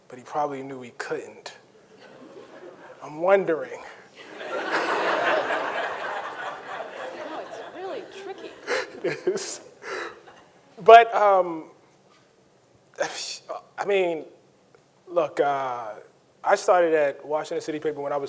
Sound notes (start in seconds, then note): 4.2 audience chuckling; 4.2 everyone laughing